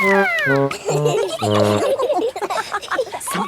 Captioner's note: all laughing